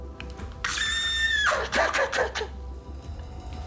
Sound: shouts

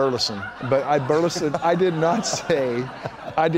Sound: laughs

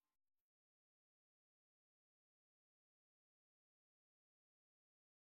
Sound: silence

